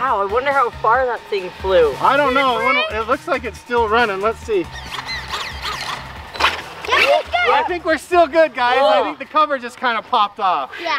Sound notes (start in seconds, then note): 5.3 engine sounds